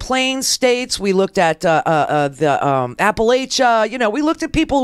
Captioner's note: stammering